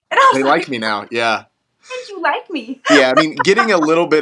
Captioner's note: laugh